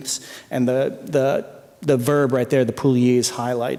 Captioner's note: non-english speech